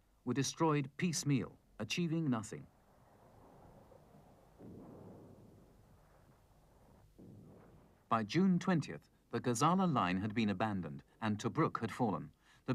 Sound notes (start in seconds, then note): 2.9 ground exploding